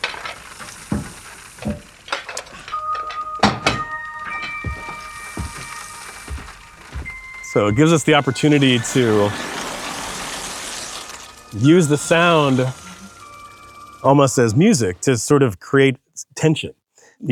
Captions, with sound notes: (water sloshing) (pensive music) (water sloshing) So it gives us the opportunity to- (water sloshing) Use the sound almost as music to sort of create tension.